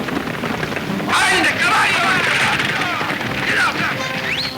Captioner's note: whistling at horses